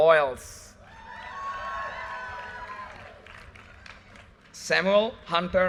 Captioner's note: audience cheers and applause